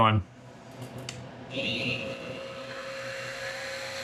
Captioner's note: mill Whirling